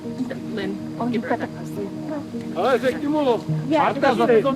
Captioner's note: film crew murmuring; foreign language